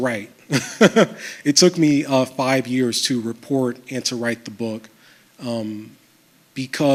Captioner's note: chuckles